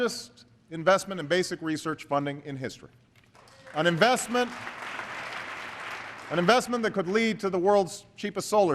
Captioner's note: applause